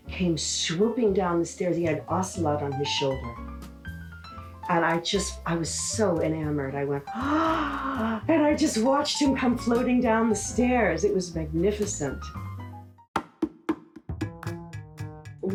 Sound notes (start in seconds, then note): 7.1 gasps; 14.1 upbeat music